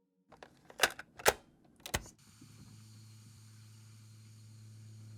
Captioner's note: cassette clicks